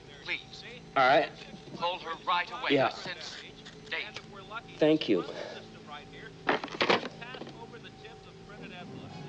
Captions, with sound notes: - Please. Call her right away. - All right. Yeah. Thank you. [phone clicks]